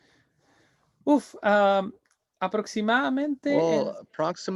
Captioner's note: speaking in Spanish